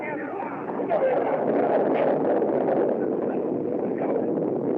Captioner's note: thunder Continues